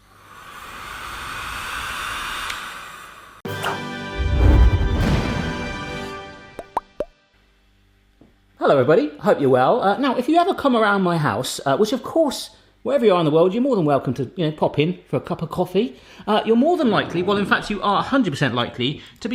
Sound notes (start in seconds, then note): 0.1 blower whirring; 3.5 instrumental crescendo; 6.7 popping